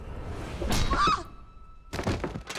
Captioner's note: Angela yelping; body thudding on floor